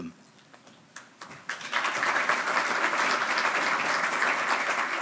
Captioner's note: audience applauding